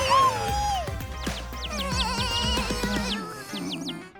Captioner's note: whimpering